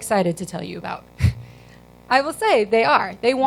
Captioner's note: chuckles